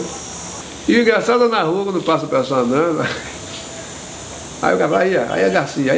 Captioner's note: laughs